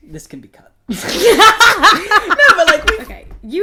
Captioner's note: laughter